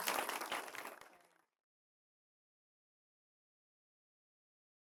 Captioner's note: applause